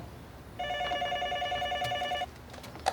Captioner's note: phone ringing